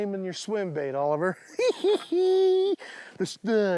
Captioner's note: laughs